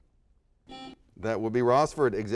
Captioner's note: buzzer beeps